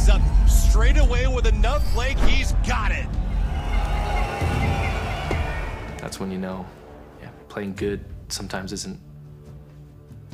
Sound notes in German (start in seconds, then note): 4.3 Stadionlärm